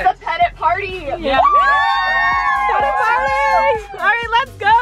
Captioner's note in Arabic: الجميع يصرخون